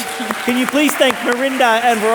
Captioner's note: audience applauding